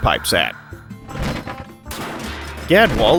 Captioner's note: crashing sounds